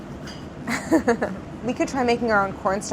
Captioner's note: laughs